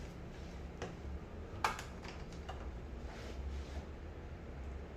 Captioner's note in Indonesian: suara damper dilepas